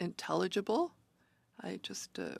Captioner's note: speaking French